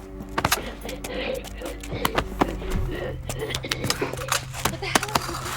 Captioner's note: guard wheezes